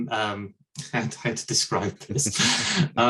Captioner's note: chuckles